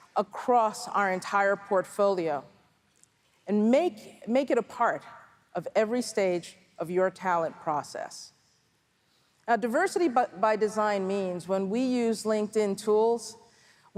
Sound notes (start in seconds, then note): none